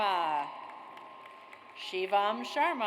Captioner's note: audience applauds